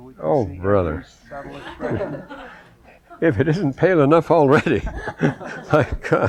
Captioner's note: laughter